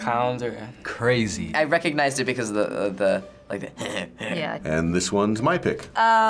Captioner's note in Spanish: imitando risa